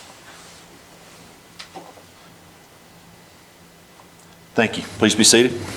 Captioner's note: silence